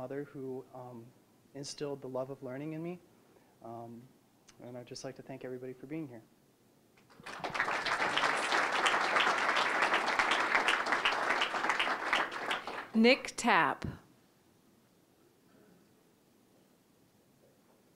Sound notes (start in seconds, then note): 7.0 applause